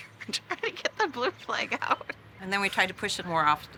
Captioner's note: laughs